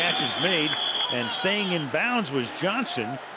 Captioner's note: whistle